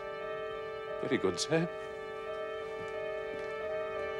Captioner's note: trembling voice